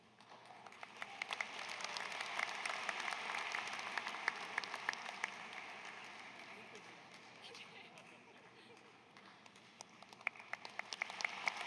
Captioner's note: applause